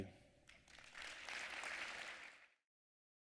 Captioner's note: applause